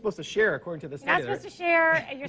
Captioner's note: laughs